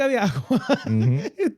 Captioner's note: speaking In Foreign Language